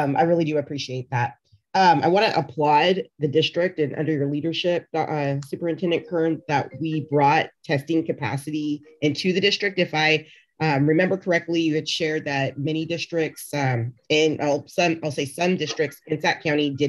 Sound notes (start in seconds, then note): 6.0 cellphone rings